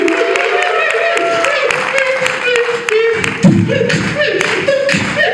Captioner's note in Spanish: Aplausos